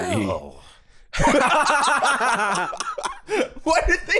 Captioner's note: both laughing